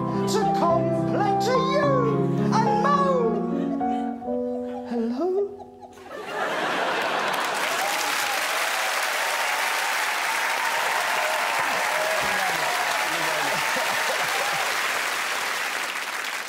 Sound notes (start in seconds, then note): 7.9 laughter, applause